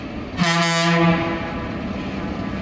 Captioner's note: foghorn